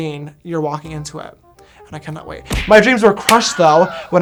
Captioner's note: punching sound